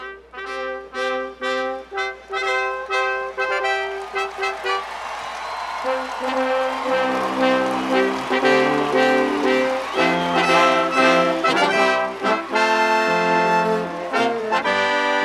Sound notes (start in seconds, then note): 4.2 music & Applause